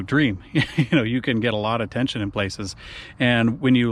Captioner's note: chuckles